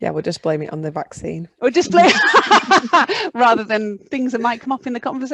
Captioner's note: laughs